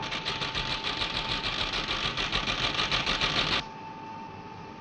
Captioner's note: machine printing